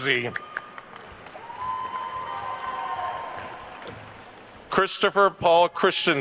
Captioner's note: attendees cheering and applauding